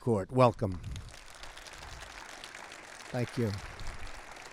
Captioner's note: applause